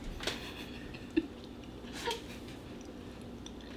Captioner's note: laughing